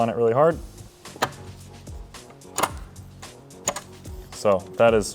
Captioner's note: mechanism clicking